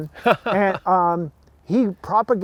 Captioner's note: laughing